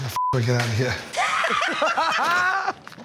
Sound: laughter

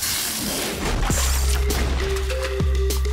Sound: slamming

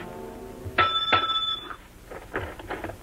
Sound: ring

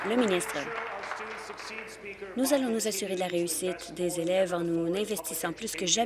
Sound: applause

